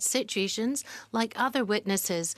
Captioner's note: speaking French